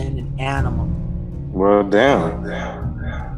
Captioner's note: echo